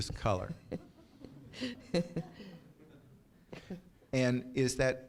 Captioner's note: chuckles